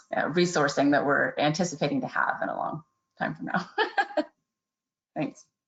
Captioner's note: laughs